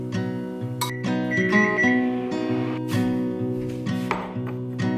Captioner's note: microwave beeps